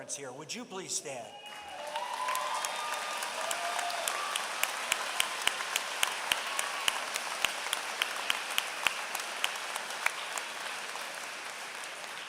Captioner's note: applause